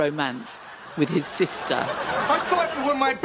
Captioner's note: laughing